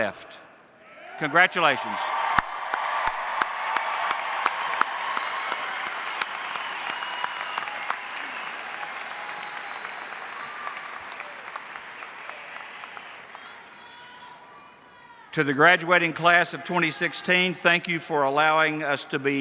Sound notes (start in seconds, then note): 3.4 cheering and Applause